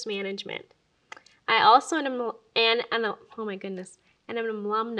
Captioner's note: stutters